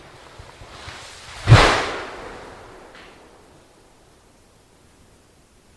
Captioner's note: LOUD tree crash